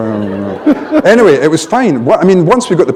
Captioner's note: laughter